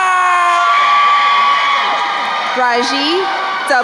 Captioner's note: crowd cheering